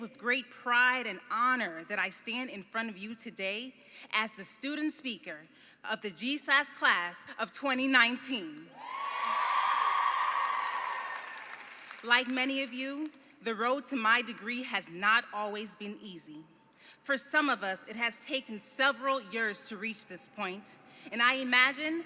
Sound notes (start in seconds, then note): 8.7 cheering